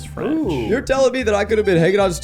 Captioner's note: exclaiming